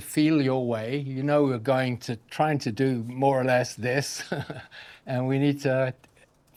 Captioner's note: chuckles